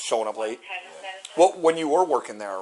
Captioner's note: radio chatter